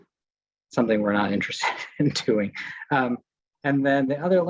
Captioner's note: chuckles